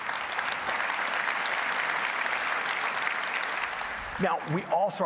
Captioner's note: applause